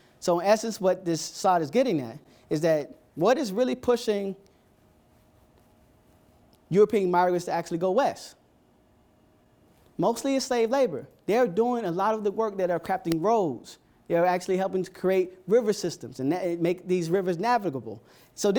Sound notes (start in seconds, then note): none